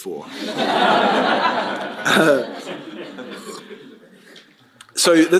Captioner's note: laughter